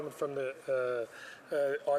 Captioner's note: speaking Alternate Language